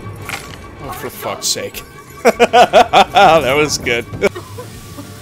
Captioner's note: laughter